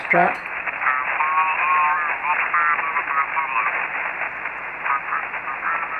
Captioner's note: faint, off frequency